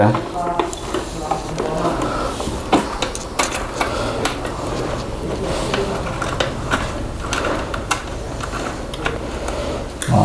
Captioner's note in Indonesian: suara obeng